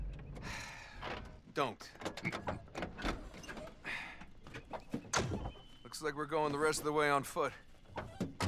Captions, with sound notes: Don’t! (laughs) Looks like we’re goin’ the rest of the way on foot.